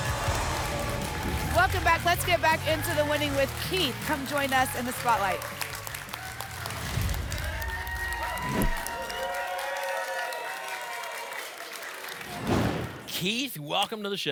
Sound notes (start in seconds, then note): 0.0 applause and cheering; 6.2 applause and cheering cont; 8.3 whoosh; 9.3 applause and cheering cont; 12.3 whoosh